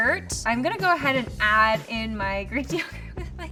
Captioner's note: laughs